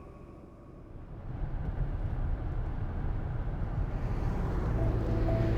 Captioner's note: car rumbling